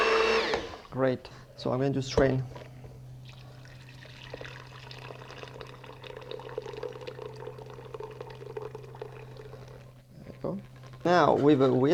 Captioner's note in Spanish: sonido vertiendo